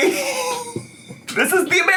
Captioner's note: laughs